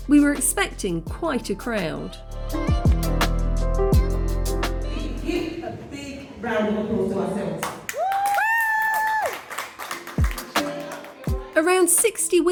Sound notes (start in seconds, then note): 7.6 clapping and cheering